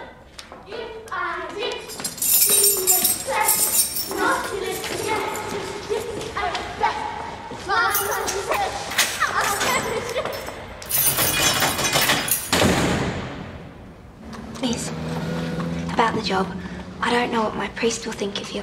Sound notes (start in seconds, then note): 5.3 children continue singing; 11.1 door slams